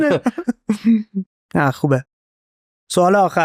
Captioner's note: laughs